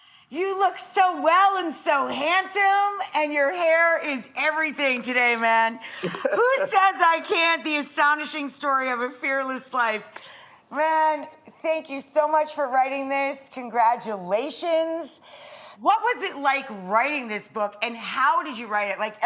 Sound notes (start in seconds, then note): 6.0 laughs